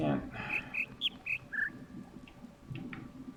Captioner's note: bird chirps ˧ ˧ ˥ ˧ ˩